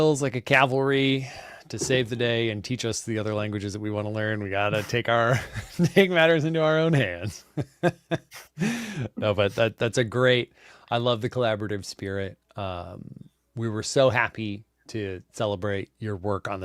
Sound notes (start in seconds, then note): 8.1 laughs